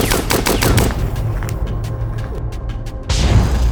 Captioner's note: suspenseful music; gunshots firing